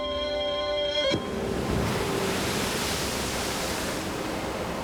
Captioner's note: water splashing